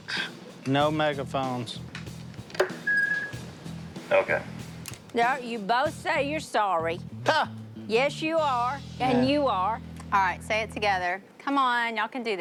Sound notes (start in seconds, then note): 1.8 feedback screeches